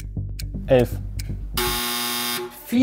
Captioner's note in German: Buzzer